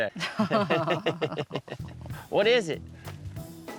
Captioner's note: both chuckling